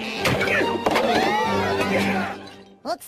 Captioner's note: villagers screaming